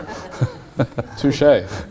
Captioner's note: laughing